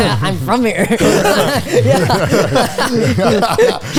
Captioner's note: all laughing